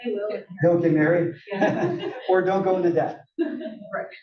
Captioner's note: laugh